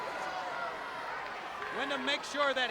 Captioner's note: crowd yelling